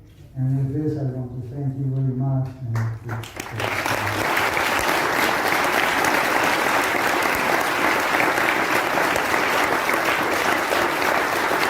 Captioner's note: applause